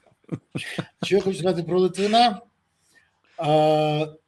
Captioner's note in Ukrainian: сміх